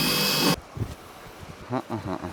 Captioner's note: drill whirring; laughs